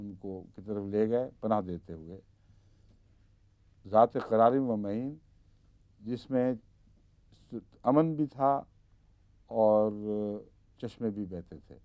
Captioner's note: Arabic; Arabic